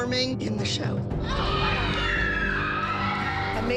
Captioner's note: cheering